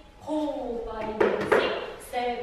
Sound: knock knock

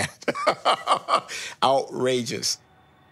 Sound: laughs

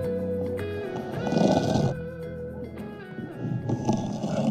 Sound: scraping

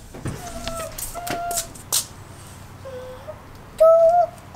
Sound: humming

